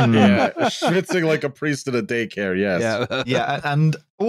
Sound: laughing

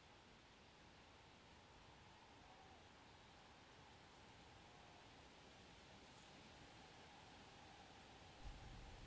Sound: rain drops

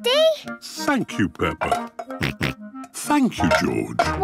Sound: snorts

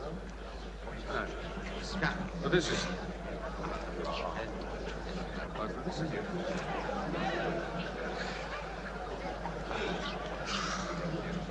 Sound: crowd noise

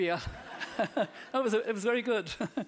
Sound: audience laughing

